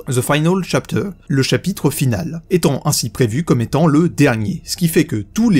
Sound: in french

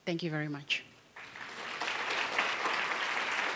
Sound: clapping

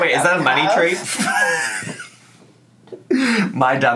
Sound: laughing

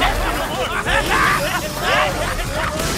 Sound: whoosh

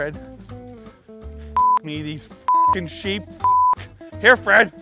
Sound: beep

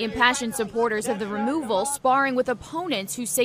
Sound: shouting

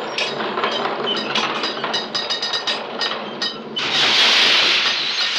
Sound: metal clanking

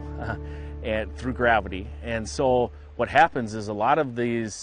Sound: chuckles

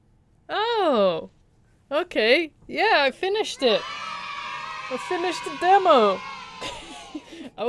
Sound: cheering

